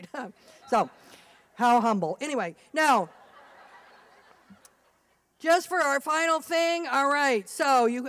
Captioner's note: slight laughter